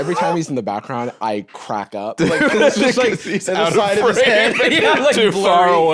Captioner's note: laughing